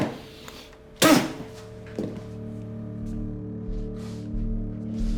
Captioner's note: Chickie spitting